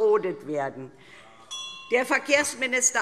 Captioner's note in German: Unruhe BÜNDNIS 90/DIE GRÜNEN - Glockenzeichen